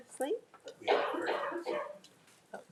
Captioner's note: member coughing